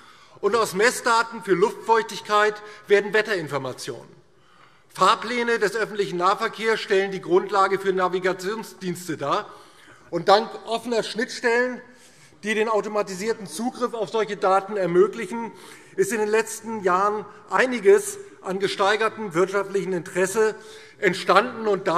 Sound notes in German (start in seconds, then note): none